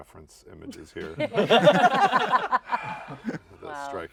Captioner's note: laughter